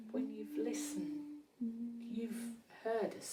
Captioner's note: soft humming